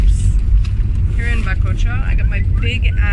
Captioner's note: speaking Spanish